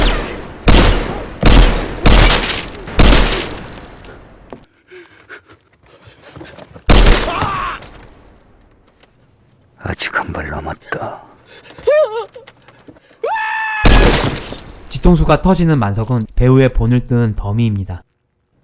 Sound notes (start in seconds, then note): 11.7 sobbing loudly; 13.2 screaming